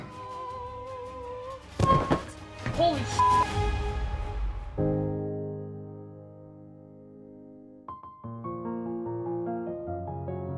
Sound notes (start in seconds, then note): 0.3 singing; 1.8 body thuds; 3.2 beep; 4.7 soft piano music